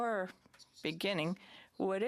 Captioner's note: speaking French